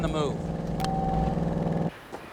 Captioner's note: phone beeps off